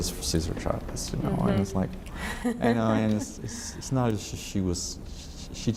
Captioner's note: laughs